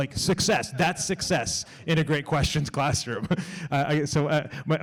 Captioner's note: laughs